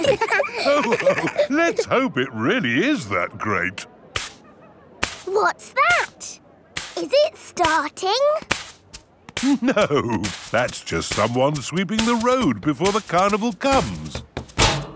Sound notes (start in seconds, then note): 0.0 all laughing; 4.1 brushing